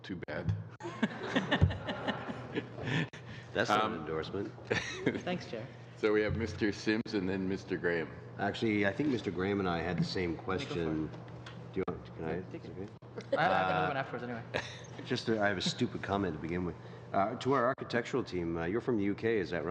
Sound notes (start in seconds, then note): 4.6 laughter